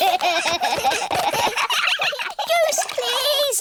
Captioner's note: all giggling